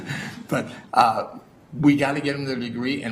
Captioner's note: laugh